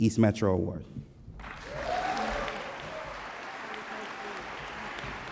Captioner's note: audience applause